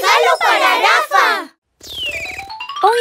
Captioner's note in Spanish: Sonido de pájaro